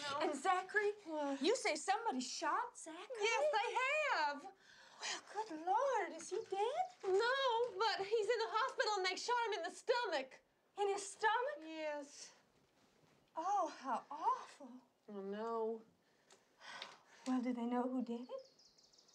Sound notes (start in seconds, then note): 15.9 sighs